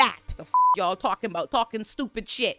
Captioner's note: beep